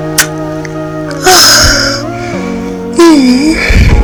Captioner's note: moaning